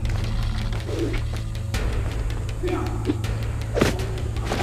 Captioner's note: dramatic music; air whipping; thudding